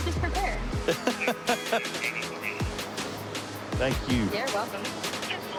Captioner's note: laughing